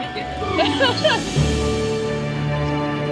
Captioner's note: laughs